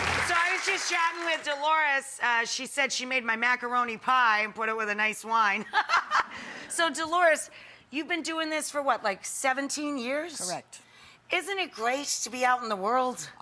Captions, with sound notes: So I was just chatting with Deloris. She said she made my macaroni pie and put it with a nice wine. (laughing) So Deloris, you've been doing this for what, like 17 years? Correct. Isn't it great to be out in the world?